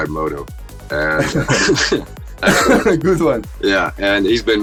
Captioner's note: laughters